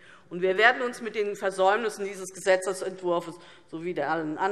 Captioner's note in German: none